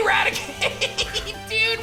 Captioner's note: laughs